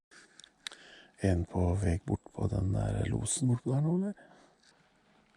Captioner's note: conversation on hunting radio